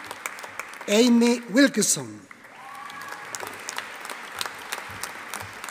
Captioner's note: audience applauding